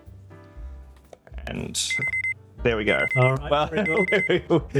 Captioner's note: alarm